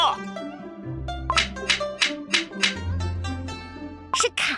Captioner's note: clapboard claps continuously